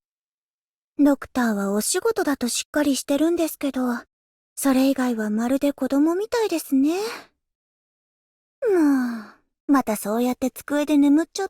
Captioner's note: sigh